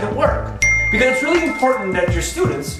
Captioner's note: ding